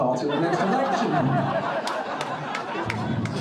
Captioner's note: crowd laughing